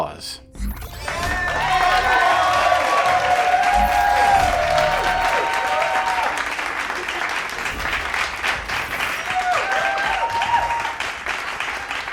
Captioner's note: crowd cheering